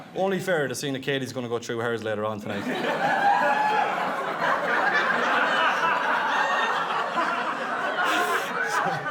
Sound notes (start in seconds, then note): 2.5 guests laughing; 2.7 guests cheering